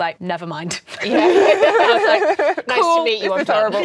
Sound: laughing

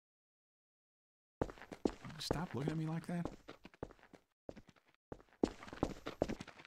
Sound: concrete Footsteps

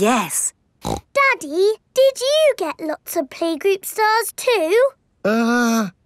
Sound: snorts

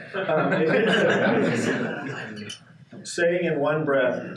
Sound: participants laughing

